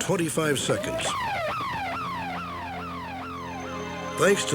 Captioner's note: alarm wailing